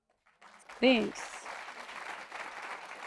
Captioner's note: applause